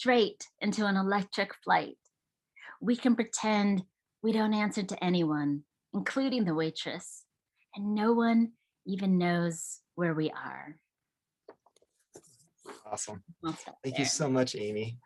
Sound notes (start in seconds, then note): none